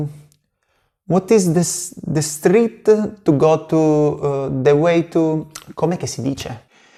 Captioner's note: italian